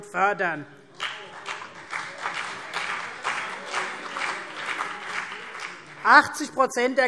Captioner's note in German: Beifall CDU und BÜNDNIS 90/DIE GRÜNEN